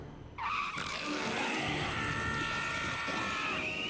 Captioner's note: screech